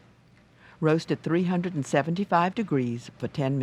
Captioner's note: voiceover